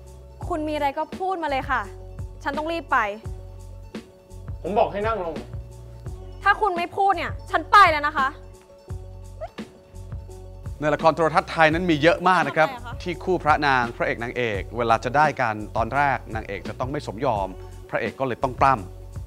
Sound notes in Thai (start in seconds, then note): 9.3 ร้อง